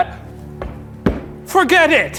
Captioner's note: feet stamp